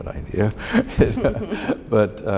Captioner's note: both laugh